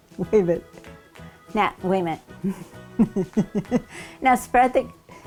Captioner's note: laughing